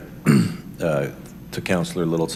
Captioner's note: clears throat